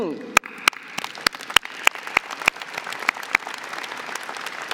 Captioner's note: audience applauding